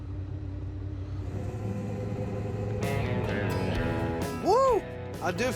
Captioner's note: motor starting